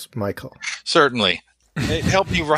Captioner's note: laughs